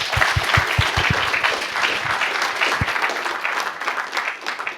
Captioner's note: applause